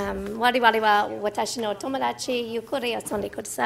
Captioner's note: speaking in another language